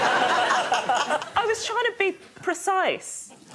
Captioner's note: laughter